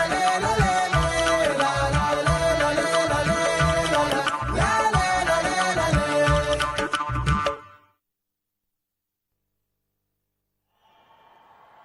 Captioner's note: cheering/Applause